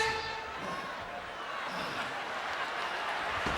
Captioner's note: panting